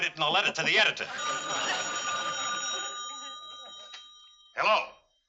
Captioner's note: phone ringing